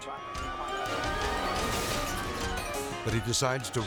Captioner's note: vehicle smashes